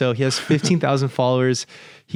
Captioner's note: chuckles